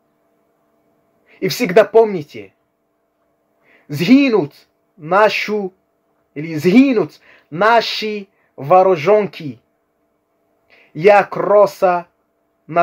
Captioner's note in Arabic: باللغة الأوكرانية